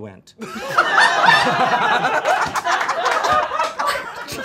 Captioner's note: all laughing